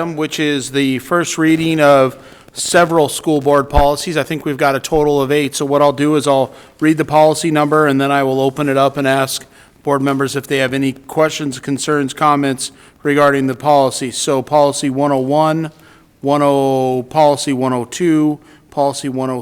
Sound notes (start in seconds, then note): none